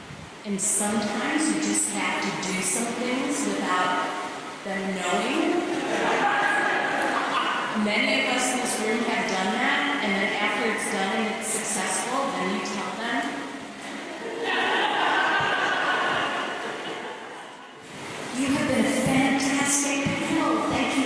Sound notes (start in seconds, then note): 5.6 laughter; 14.2 laughter